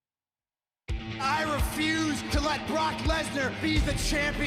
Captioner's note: crowd cheering